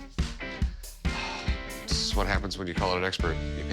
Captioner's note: sighs